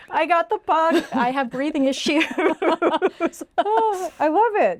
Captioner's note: laughing